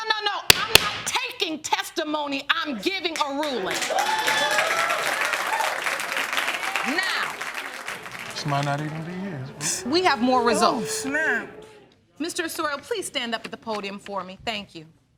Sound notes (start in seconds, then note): 3.4 audience cheering; 8.8 snickering